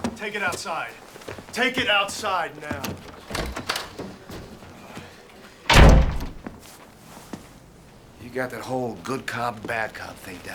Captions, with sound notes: Take it outside. Take it outside, now! (door clicking) - You got that whole good cop, bad cop thing